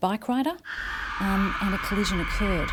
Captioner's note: brakes screeching